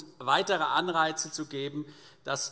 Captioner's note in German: none